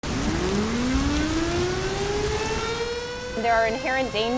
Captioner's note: warning siren